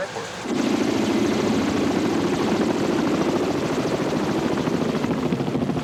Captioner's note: helicopter blades thumping